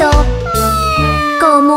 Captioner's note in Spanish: Maullido